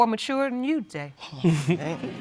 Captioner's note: laughing